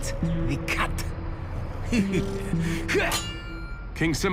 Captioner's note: chuckles, grunts